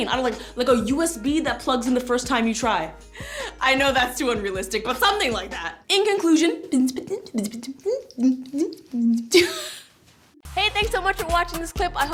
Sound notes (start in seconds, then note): 6.9 alien beatboxing; 9.2 laughs